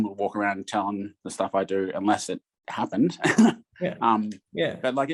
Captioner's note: laughs